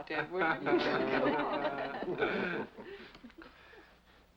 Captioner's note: laughter